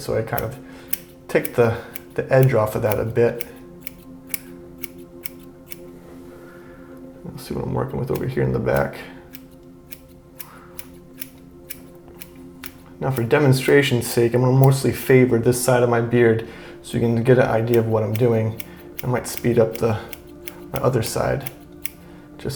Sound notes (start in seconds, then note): 4.1 relaxing music; 9.8 scissors snipping